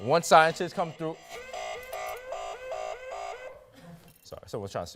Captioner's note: phone alarm sounds